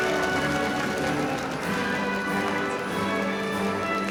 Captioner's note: audience applauding